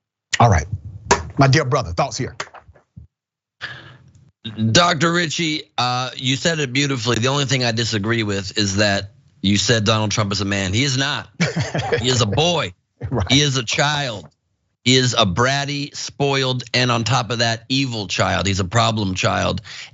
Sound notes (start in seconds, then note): 11.3 laugh